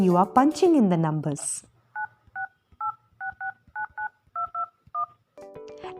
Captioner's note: phone buttons pressing sound